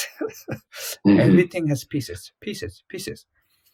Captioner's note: laughs